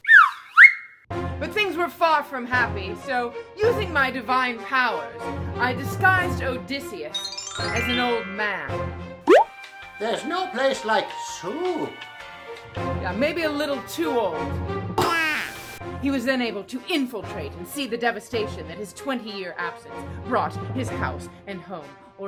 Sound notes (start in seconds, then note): 0.0 slide whistle; 7.1 tinkling bells; 9.2 pop; 15.0 baby crying